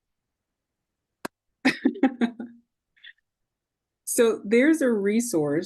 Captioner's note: laughing